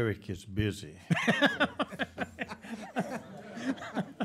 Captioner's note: laughing